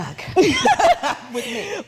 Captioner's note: chuckling